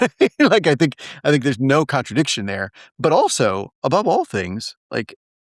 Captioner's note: laugh